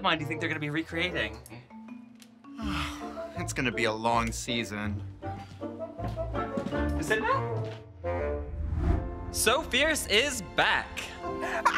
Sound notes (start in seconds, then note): 2.4 sighs; 5.4 whimsical music; 6.0 shoes clacking; 8.5 image whooshes